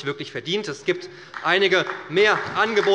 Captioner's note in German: Beifall bei der SPD